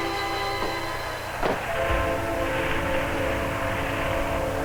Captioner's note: dramatic music; wind howling